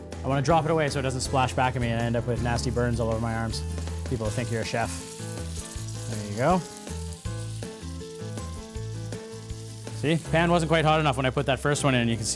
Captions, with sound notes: I want to drop it away so it doesn't splash back at me and I end up with nasty burns on my arms. People will think you're a chef! There we go. (Sound of frying) See? Pan wasn't quite hot enough when I put that first one.